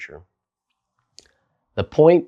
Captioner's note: beat